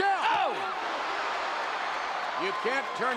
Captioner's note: commentators exclaim